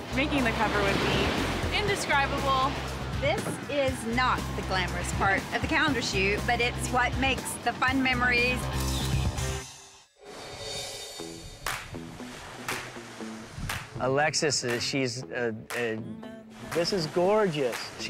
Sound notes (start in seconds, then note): 11.7 upbeat guitar music; 15.8 stammers